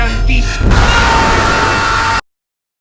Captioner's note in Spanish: gritos de Loud Nigra y de Tyler1